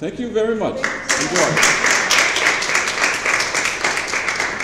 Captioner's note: applause